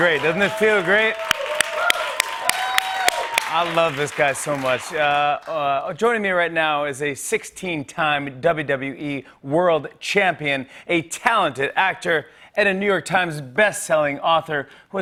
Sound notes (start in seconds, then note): 2.1 cheers and applause